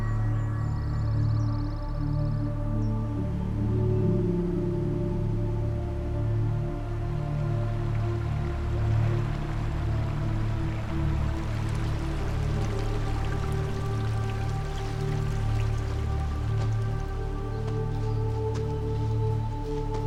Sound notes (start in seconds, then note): 0.0 birds tweeting; 8.5 water running